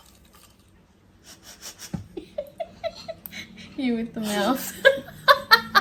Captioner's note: starts laughing again; both laugh